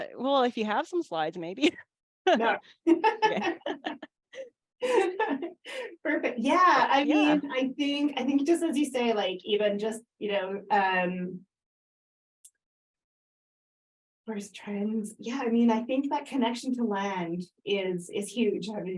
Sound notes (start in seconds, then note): 2.8 laughter